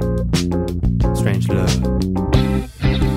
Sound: sexy voice

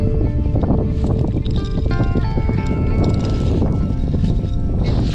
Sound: loose soil from bottle jingles

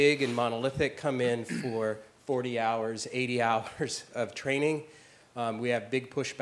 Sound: laugh

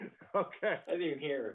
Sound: laughter

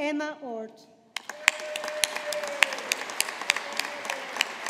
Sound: audience applauding

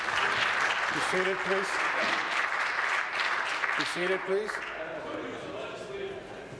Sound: applause

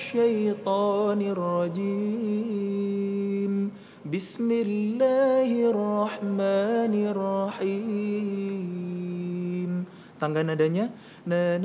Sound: recites quran

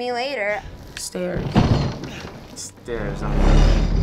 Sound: rattling and creaking

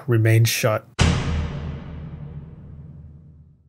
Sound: door slamming

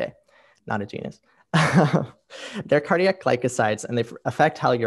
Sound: laughs

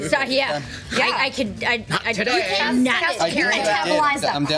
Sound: group chats excitedly over each other

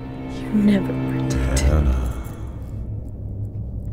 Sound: deep Whisper

